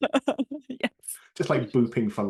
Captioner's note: laughing